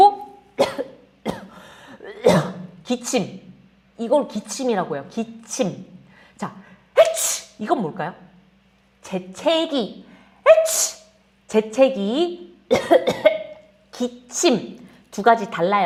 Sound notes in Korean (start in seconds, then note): 0.5 기침; 10.2 재채기; 12.6 기침; 12.7 재채기